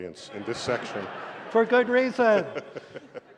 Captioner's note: laughter